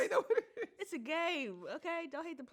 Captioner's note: laughs